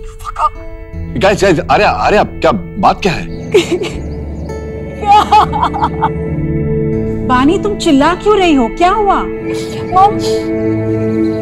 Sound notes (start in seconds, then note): 3.6 Crying